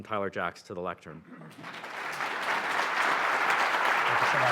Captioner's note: applause